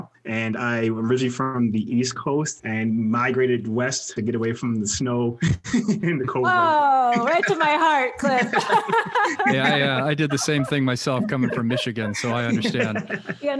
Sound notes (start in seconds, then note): 5.5 laughs; 8.6 laugh